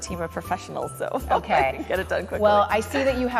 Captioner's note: laughs